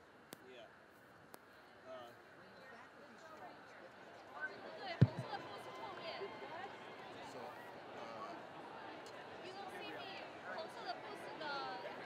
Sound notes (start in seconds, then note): 5.0 speaker speaking in foreign language